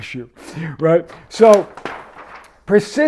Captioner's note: paper rustles